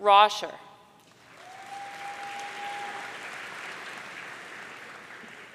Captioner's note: audience cheering